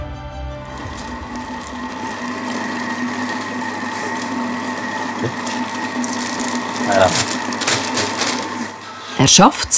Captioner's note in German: Le plastique bruisse